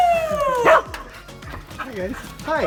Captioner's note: dog barking